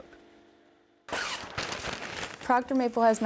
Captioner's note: paper rattling